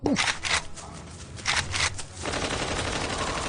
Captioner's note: gun is cocked; gun is cocked again; gunfire